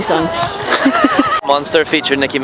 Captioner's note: laughing